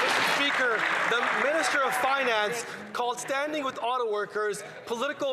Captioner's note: some Applause